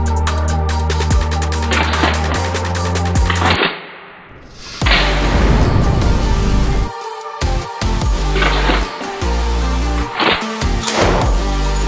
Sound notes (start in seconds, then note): 1.0 gun clicking; 1.0 gun firing; 7.8 gun clicking; 7.8 gun firing